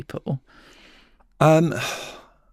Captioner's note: sighs